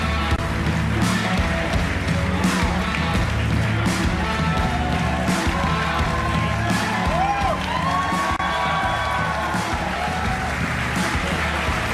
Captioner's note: cheering and Applause